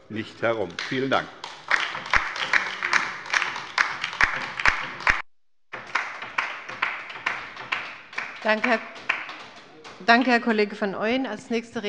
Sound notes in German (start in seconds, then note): 2.3 Beifall bei der LINKEN